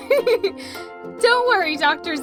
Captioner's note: giggles